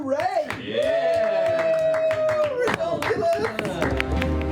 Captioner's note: cheers and applause